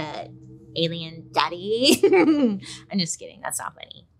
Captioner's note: laughs